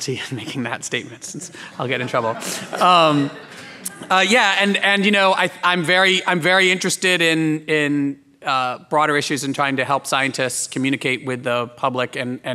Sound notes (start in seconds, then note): 1.3 laughing